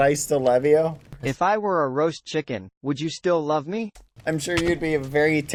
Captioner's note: text-to-speech